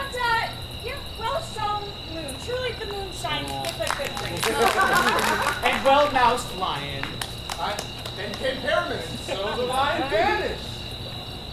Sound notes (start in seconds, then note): 4.8 Lovers applaud